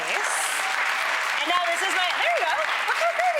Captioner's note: audience cheering